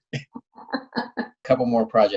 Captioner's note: laughing